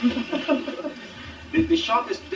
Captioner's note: laughter